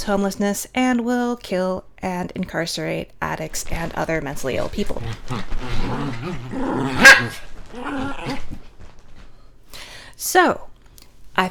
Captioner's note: more barking